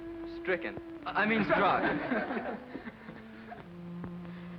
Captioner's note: laughter